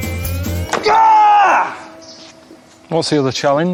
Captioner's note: yells